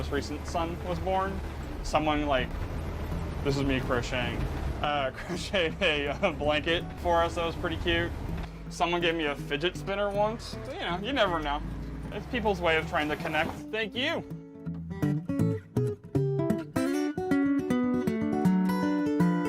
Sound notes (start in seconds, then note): 5.0 chuckling; 15.7 soft classic guitar music